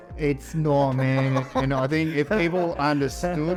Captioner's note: laughs